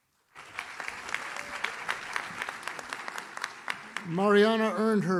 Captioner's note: audience claps